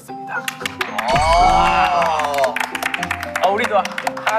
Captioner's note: applaud